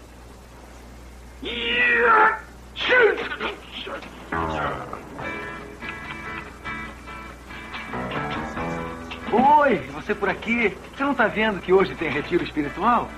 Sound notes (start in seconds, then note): 1.8 Browning Sneezes